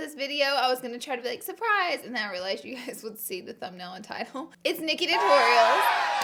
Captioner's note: cheer SFX